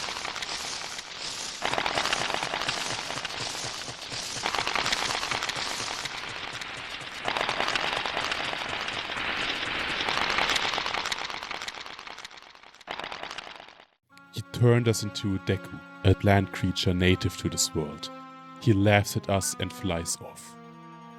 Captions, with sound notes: he turned us into Deku a plant creature native to this world he laughs at us and flies off [Footsteps]